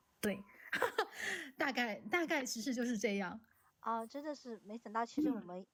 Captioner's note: laughs